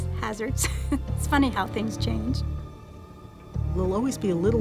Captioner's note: laughs